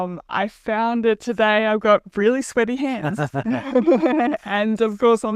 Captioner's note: laughs